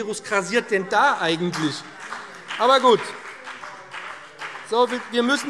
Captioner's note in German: Beifall BÜNDNIS 90/DIE GRÜNEN - Zurufe DIE LINKE